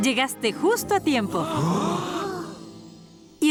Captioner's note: gasps